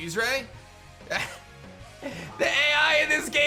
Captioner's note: chuckles